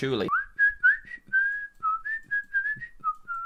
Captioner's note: whistles